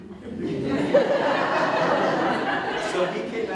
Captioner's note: audience Laughing